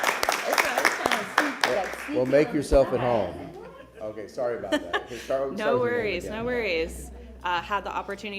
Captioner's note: applause